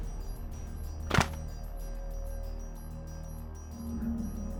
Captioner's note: brick snaps